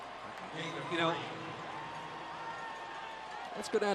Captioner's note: pa announcement